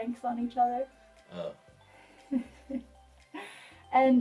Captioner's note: laughs